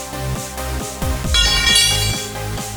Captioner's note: metal clank